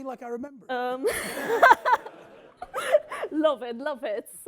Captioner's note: everyone laughing